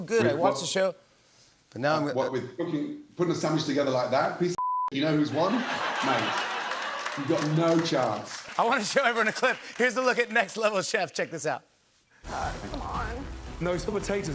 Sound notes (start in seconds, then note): 5.4 laughter